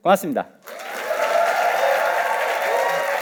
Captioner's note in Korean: 박수와 환호